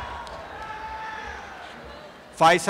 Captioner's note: applause and cheering